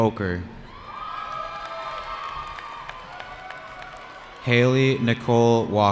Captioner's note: cheering